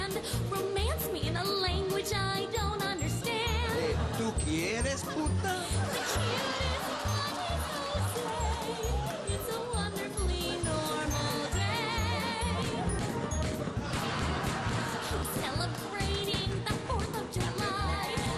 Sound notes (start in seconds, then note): 12.1 tires screech, gunshots; 13.8 gunshots